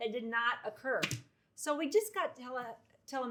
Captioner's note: paper slaps